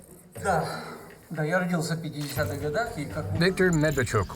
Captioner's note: speaking foreign language